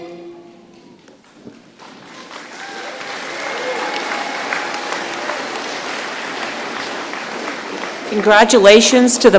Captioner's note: applause